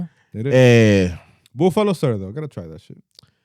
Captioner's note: speaking In Foreign Language